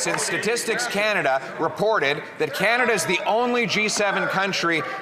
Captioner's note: some Applause